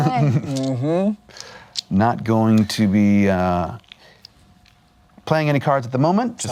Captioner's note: laughs